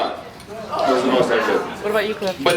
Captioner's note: impressed reactions